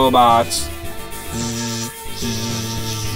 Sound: robot noises

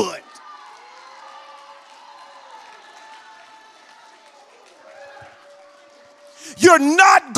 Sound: congregation shouts and applauds

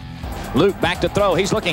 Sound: voiceover

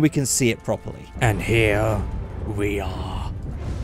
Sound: sinister Voice

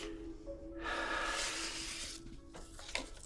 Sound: sighing

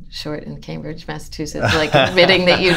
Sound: laughter

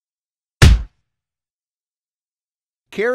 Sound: punch sound

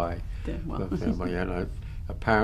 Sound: laughs

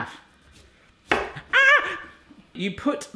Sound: screams

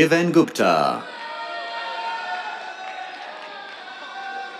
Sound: cheers, applause

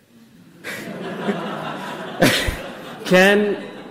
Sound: audience laughs

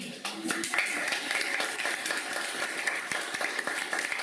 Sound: applause

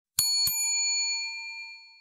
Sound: bell dings

